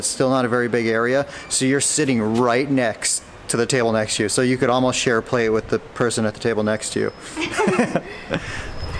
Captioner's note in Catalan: Riu